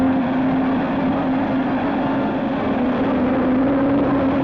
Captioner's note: engine roaring